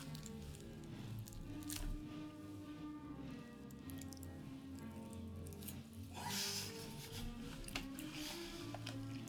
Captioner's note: meat flap sound